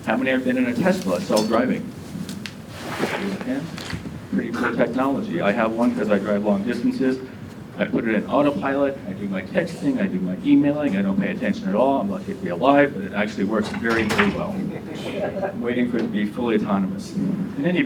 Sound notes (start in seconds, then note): 14.3 audience laughs